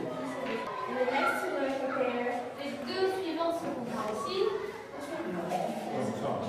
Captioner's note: speaks softly